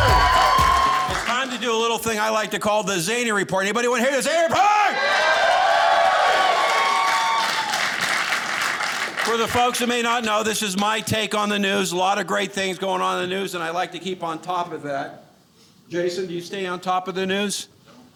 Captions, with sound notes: (audience applauding) It's time to do a little thing I like to call the Zany Report. Anybody wanna hear the Zany Report? (audience cheering) For the folks that may not know, this is my take on the news. A lot of great things going on in the news, and I like to keep on top of that. Jason, do you stay on top of the news?